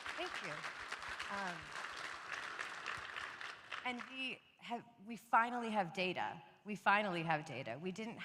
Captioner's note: applause